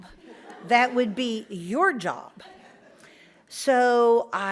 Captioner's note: audience laughs